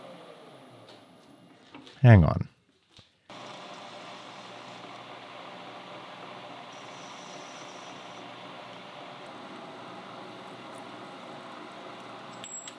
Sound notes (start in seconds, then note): 3.4 tool humming